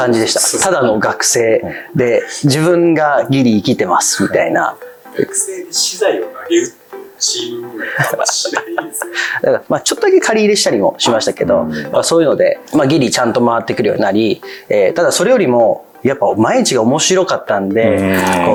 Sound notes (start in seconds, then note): 7.4 laughs